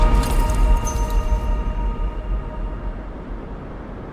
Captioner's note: metal jingles